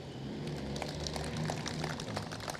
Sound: applause

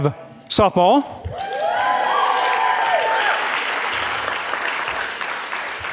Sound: audience cheering and clapping

